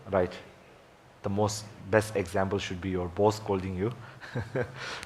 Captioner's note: laughs